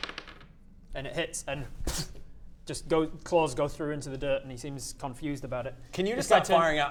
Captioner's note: poof